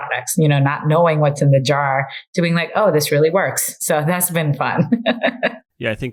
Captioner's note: laughs